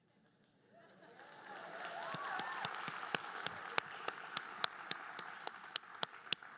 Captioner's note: audience cheering and applauding